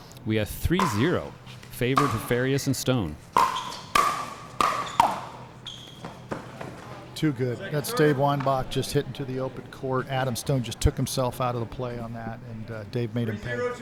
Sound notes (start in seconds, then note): 3.1 ball being hit; 3.2 shoes squeaking